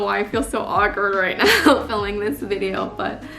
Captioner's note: laughs